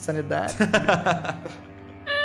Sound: laughs

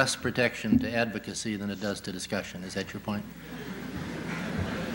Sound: laughter

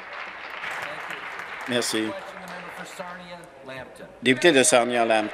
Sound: applause

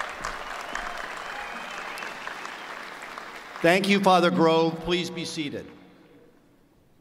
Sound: applause

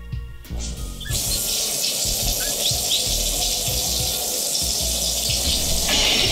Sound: shower starts

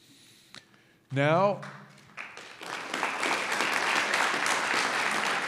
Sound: audience applauds

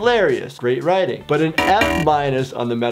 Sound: buzzing

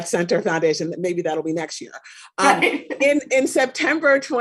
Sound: chuckles

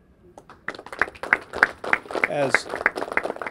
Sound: clapping

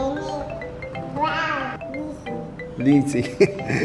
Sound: baby gurgles

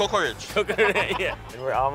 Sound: laughing

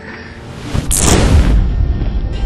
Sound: magic zap and woosh

